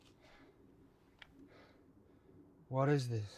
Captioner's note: soldier breathing heavily